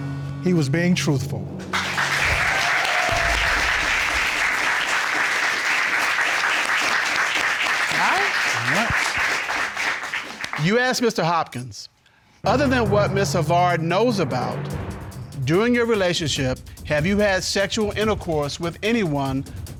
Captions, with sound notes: he was being truthful. [audience cheers] -All right. -All right. You asked Mr. Hopkins, "Other than what Ms. Havard knows about, during your relationship, have you had sexual intercourse with anyone